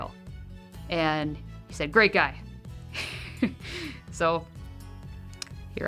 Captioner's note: laughs